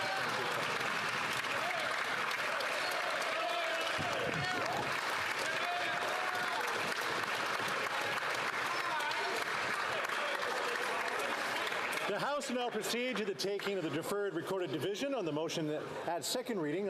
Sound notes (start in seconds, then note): 8.4 applause; 9.1 cheering and Applause